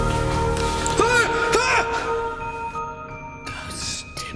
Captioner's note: yelling